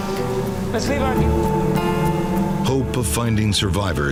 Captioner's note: searcher speaking in Spanish